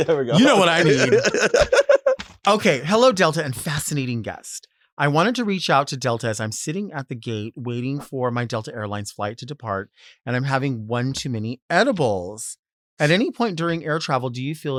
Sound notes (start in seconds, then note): 1.9 Sapphira laughs